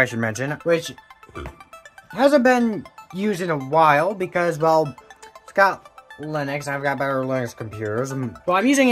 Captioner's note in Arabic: التجشؤ